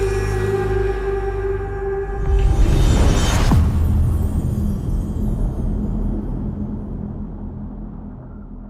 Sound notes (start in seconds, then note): 2.9 dramatic sound